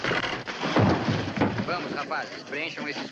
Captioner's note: thudding